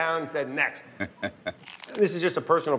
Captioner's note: laughs